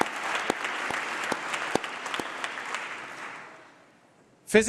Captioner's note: applause